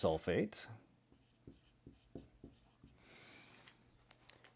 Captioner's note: pen scratching